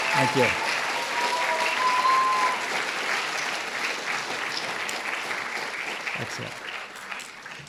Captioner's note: audience cheering and applauding